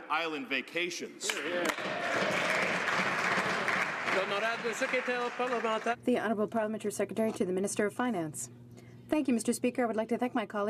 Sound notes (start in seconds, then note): 5.6 some Applause